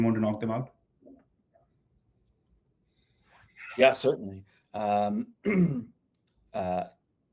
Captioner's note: clears throat